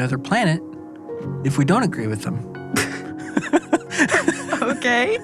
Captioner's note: chuckles; laughs